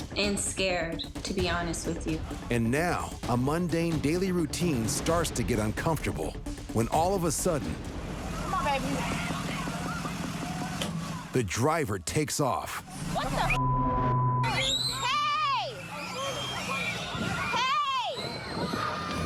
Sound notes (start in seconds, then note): 14.4 children screaming